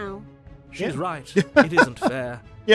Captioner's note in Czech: smích